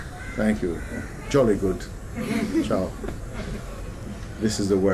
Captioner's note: laughter